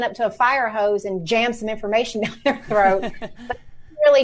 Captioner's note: laughs